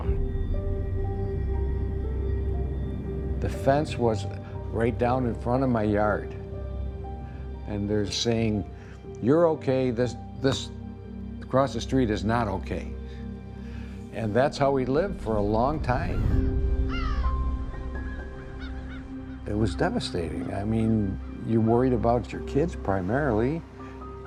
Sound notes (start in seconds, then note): 16.8 birds cawing